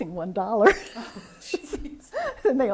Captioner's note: laughs